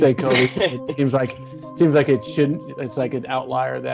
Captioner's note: laughter